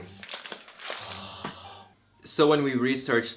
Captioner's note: sigh